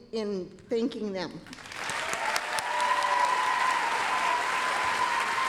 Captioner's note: applause, cheering